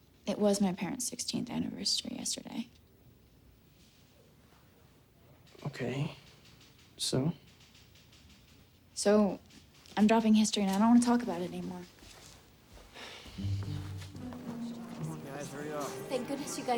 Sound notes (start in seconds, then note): 13.0 Spencer sighs